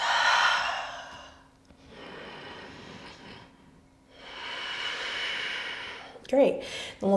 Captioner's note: heavy breathing